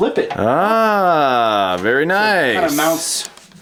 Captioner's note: voiceover